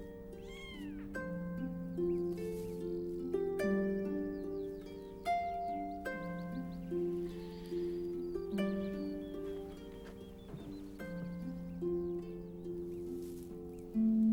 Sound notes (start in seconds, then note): 0.4 cat mews; 4.1 instrumental music